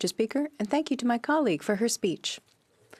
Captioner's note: speaking French